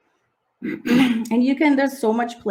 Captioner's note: clears throat